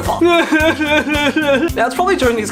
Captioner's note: intense sobbing